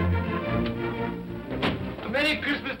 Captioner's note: door bangs open